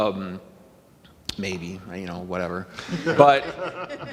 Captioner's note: panel laughing